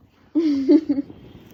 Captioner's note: laughs